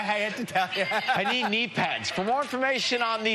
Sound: laughter

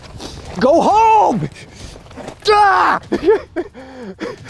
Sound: groans; laughing

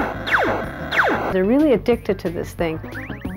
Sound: laser fire

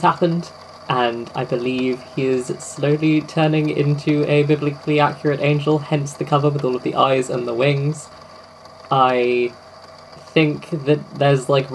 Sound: tape recorder clicks on

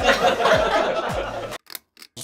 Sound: laughs

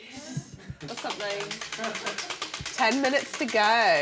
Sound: wheel clacking

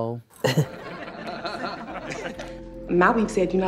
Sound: laughs

